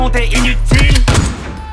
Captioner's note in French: Coup de feu